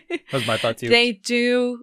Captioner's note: laughter